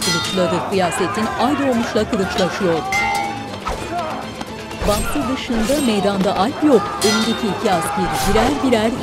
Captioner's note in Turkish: Dövüş sesleri; Bağırma sesleri